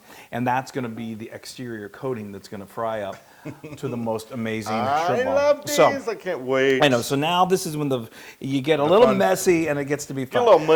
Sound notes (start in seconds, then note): 3.3 laugh